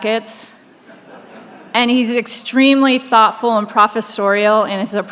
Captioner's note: laughing